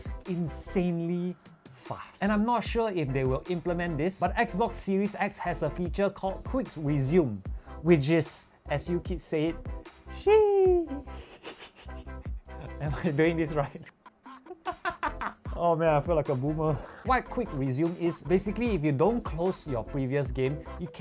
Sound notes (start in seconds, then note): 10.8 boomer laugh; 13.8 more boomer laughs